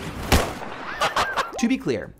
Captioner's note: laughing